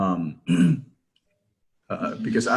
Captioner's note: ahem sound